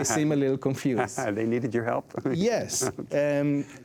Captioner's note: chuckles